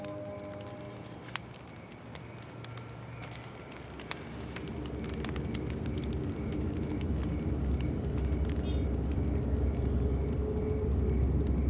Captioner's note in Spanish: sonido al crepitar el fuego